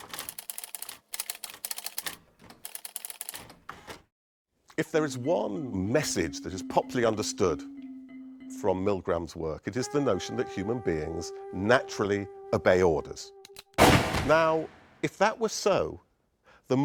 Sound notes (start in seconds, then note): 13.8 gunfire blasting